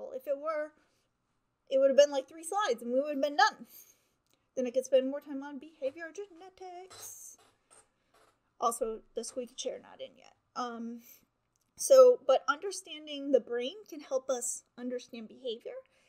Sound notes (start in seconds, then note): 5.8 chair squeaks